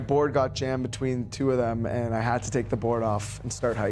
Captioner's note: voiceover